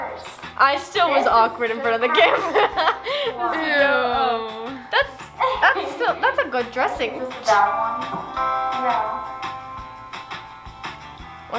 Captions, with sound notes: - I'll go first. - I still was awkward in front of the camera (laughs). - Eww. - That's still, that's a good dressing. - Is this a bad one? - No.